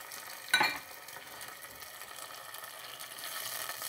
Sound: sizzling

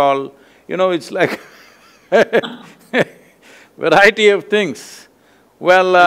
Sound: laughs

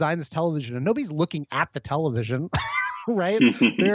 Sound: laughs

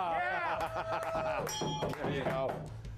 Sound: applause; bell rings

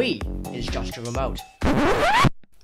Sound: record scratch

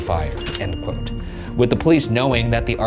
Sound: bell dings

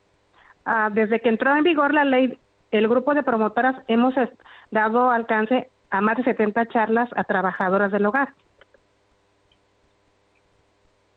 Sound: speaking spanish

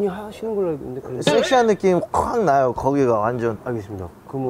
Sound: hahahahahaha

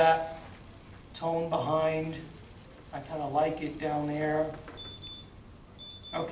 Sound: timer beeping

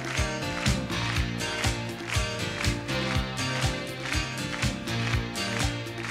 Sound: audience applauding; exciting music

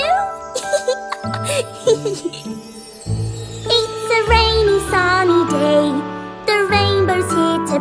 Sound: laughing

